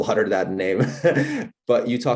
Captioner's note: laughs